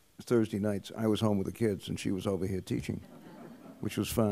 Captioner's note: laughter